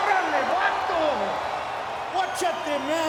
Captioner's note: crowd cheering; Eddie speaking Spanish